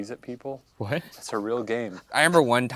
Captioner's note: laughing